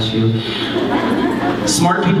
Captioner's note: laughter